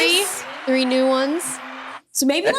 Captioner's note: laughing; crowd cheering